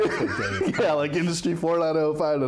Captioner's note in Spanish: se ríe